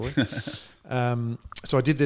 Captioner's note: laughing